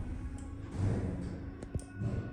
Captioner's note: right lift's doors close